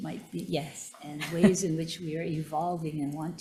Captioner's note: chuckling